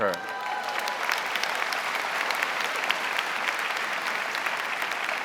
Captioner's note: audience cheering and applauding